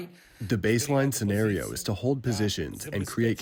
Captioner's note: through translator